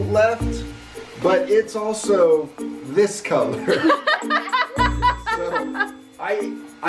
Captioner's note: laughs